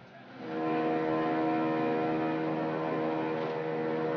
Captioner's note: helicopter blades buzzing